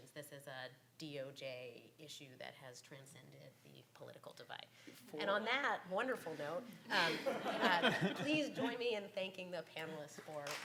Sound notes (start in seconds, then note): 6.9 laughs